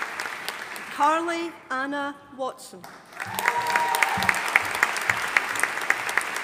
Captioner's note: audience applauding